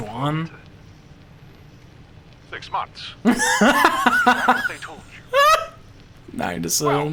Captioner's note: laughing